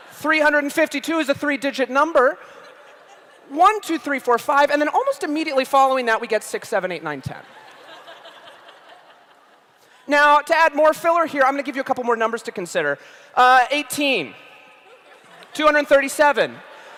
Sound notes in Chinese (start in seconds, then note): 7.4 笑聲